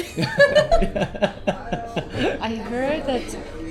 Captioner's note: laughing out loud